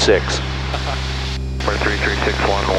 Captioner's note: laughs